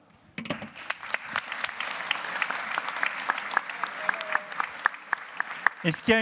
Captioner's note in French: Applaudissements